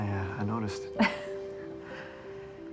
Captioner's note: laughing